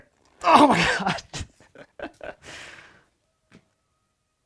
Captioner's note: chuckles